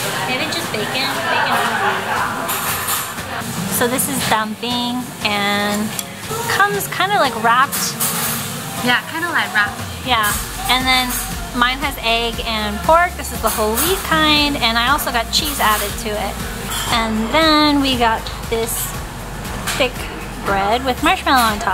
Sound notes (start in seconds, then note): 1.0 foreign language; 4.6 foreign language